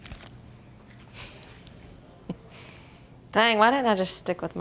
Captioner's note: giggles